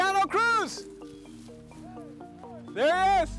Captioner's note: shouts